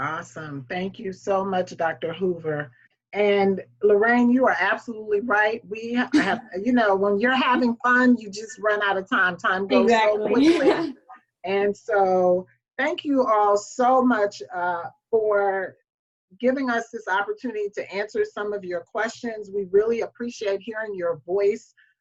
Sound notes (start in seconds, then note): 10.2 laughs